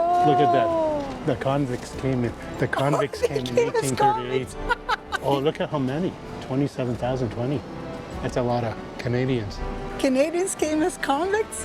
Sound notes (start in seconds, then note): 4.6 laughs